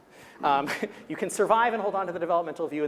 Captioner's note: chuckling